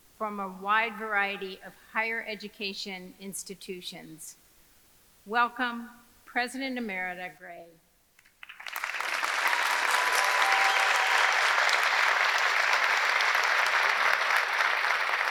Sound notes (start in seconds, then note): 8.3 audience applauding; 8.6 audience cheering